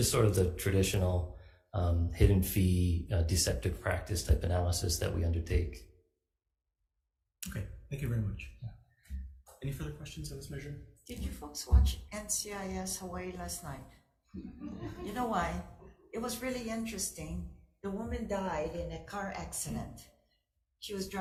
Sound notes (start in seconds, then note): 14.4 people laugh